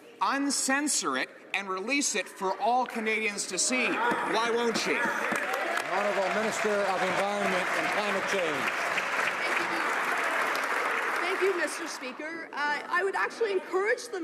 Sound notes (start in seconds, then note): 9.7 some Applause